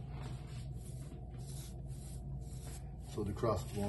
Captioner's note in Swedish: brush sounds